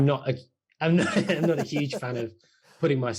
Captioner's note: laughing